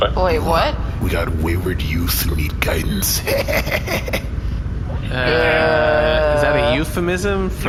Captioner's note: shady laugh